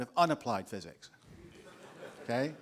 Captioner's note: laughs